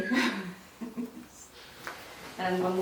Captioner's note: laughs